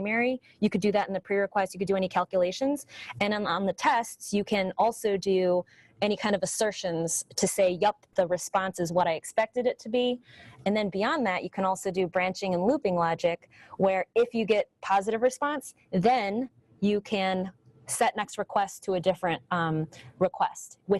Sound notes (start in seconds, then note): none